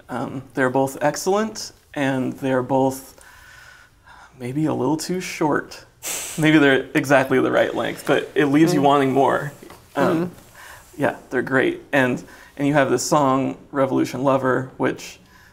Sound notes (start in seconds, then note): 6.1 laughs